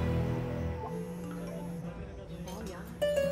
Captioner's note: Notification sound